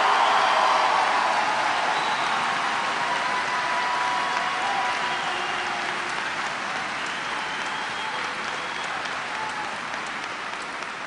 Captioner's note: cheers and applause